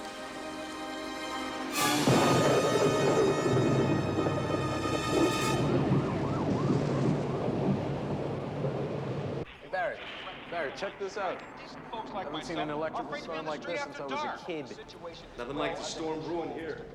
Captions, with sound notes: [THUNDER] HEY, BARRY. BARRY, CHECK THIS OUT. I HAVEN'T SEEN AN ELECTRICAL STORM LIKE THIS SINCE I WAS A KID. NOTHING LIKE THE STORM BREWING HERE.